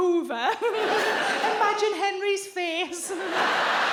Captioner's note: chuckles; chuckles; audience laughs